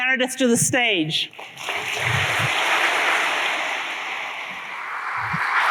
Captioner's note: applause